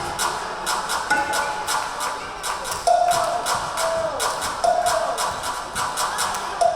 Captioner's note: rhythmic clapping; rhythmic drumming